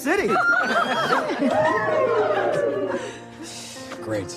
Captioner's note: cheering excitedly